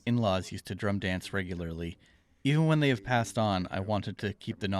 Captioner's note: speaking Indigenous LANGUAGE